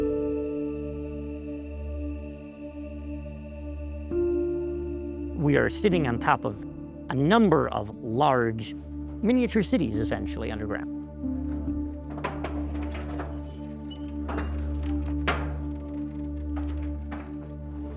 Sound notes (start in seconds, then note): 0.1 somber music; 11.4 doors creak